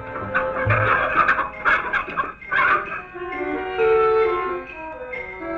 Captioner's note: Rosina clucking